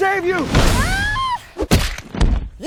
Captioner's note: giant Thud; screaming